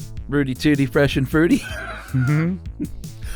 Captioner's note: laughs